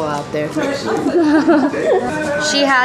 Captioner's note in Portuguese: risos